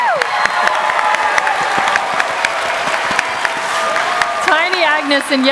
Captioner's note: applause